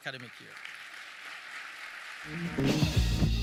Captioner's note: audience clapping